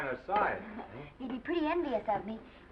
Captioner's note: Esther chuckles